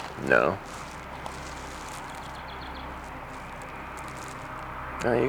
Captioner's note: bird chirping; somber music